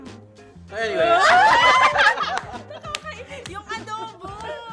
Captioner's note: laughs